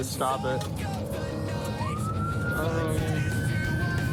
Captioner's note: siren blaring